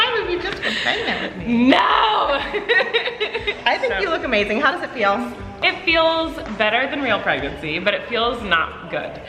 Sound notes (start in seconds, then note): 0.6 laughing